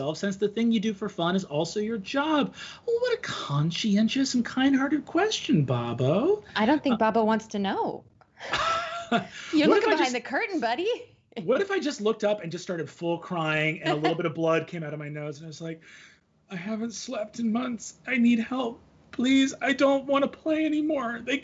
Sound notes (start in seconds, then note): 8.4 laughing